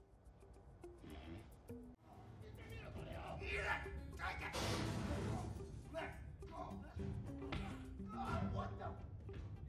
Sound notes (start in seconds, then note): 3.9 men fighting